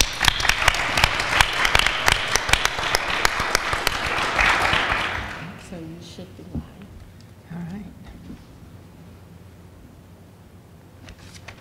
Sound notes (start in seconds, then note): 0.0 audience applauds; 6.1 speaks quietly off mic